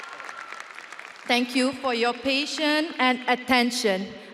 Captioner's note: audience applauding and cheering